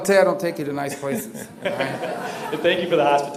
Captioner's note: laughter